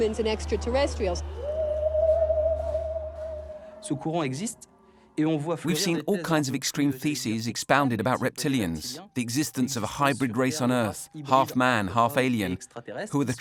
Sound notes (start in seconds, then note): 1.7 eerie music; 4.0 speaking foreign language